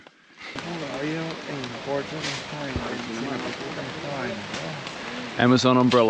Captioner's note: speaking in foreign language